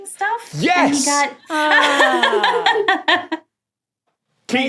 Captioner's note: laughs heartily